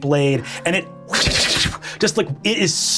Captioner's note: imitates swords swishing